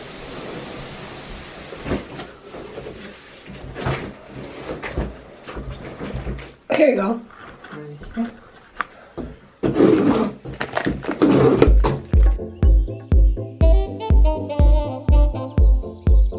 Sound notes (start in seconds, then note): 0.2 box sliding across floor; 9.6 tape being cut